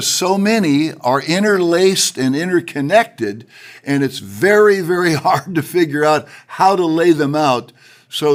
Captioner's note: chuckles